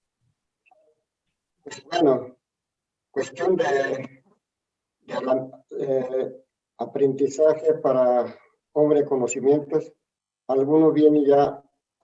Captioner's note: the Ma’arakame answers in Spanish